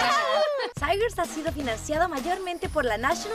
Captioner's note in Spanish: todas gritando